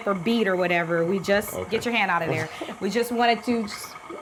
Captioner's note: chuckles